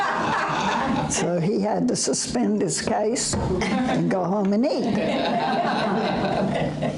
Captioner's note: audience laughter